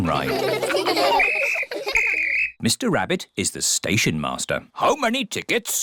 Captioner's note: blows whistle